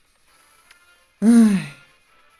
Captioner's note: sigh